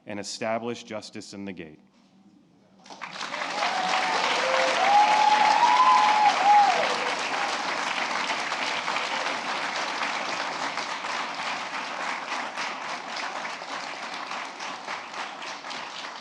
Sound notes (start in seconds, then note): 2.8 applause